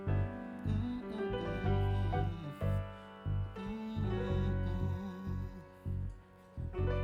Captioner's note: humming